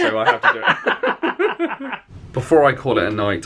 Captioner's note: both laugh